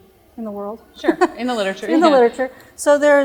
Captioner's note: chuckle